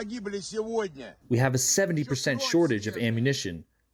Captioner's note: through translator